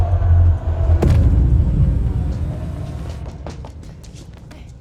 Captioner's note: dramatic music; butcher thuds